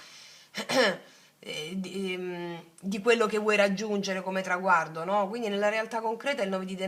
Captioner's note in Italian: schiarire la voce